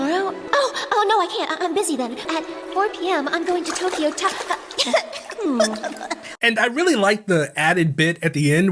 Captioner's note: coughing